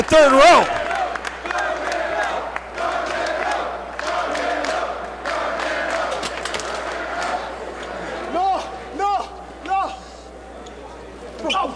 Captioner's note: applause